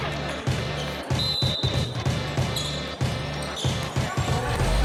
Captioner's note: whistle blowing